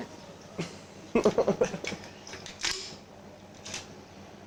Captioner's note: laughs